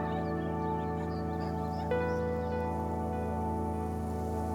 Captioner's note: birds chirping